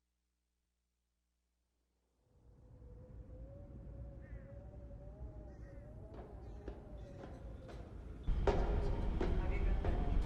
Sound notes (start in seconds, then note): 4.2 crow cawing